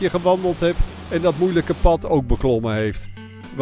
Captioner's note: voiceover